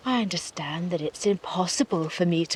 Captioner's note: none